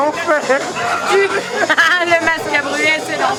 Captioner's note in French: rires bourrés